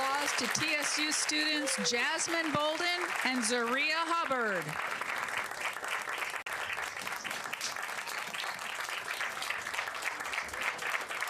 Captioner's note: applause